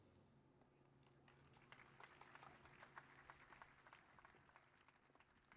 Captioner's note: applause